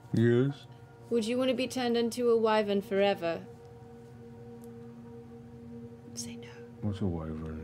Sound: whispering

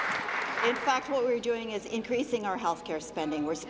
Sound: applause

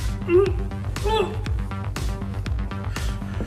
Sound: grunts

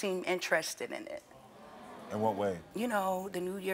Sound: audience gasps

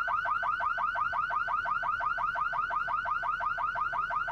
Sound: car alarm blaring

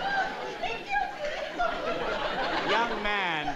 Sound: laughs

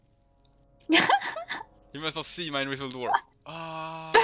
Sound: haha

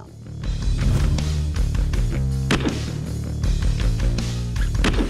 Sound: slow motion gunshots

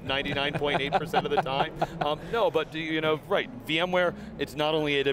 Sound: laughing

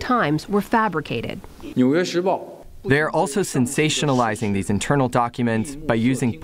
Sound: through translator

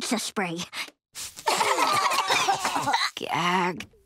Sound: coughing

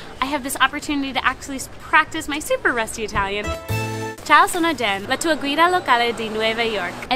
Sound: breaks into Italian

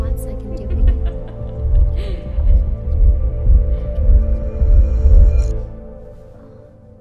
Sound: suspenseful music; laughing

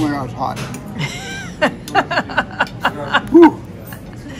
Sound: laughing

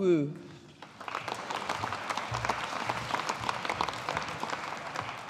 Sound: audience applauding

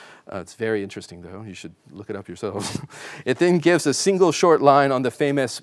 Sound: chuckling

